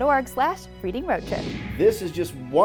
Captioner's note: computer whooshing